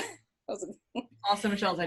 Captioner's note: chuckles